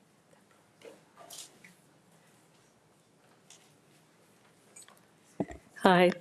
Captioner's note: speaks faintly